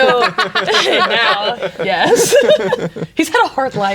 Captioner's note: players laughing